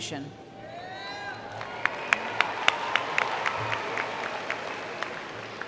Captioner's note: cheering and Applause